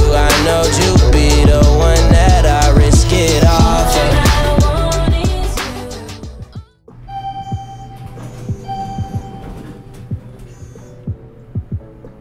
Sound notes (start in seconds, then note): 7.0 elevator beeping; 9.1 low upbeat music